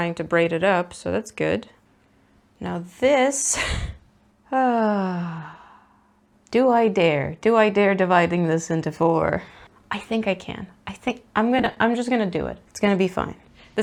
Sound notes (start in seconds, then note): 3.5 laughs and sighs